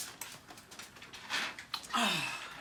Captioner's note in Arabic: تتنهد